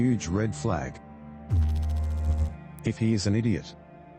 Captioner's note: electrical noise